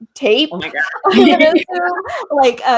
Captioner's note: laughs